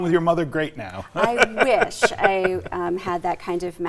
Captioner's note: laughs